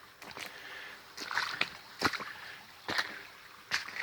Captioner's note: water splashing